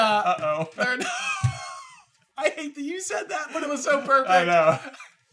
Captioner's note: laughs